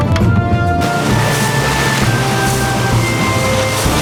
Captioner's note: splash!